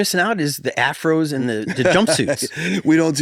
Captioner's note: laughs